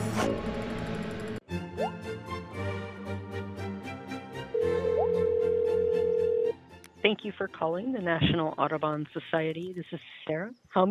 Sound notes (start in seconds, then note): 1.5 cheerful classical music; 4.6 phone ringing